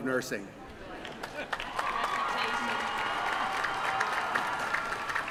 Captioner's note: cheering